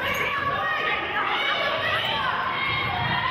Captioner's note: yelling